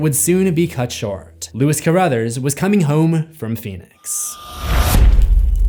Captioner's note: impact